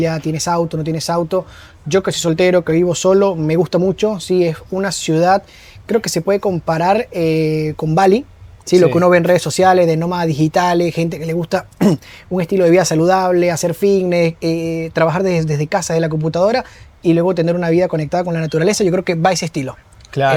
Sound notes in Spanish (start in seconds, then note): 11.8 carraspeo